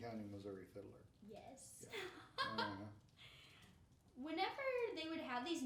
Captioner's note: laughing